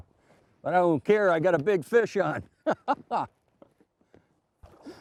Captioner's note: laughs loudly